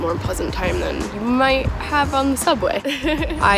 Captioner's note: laughs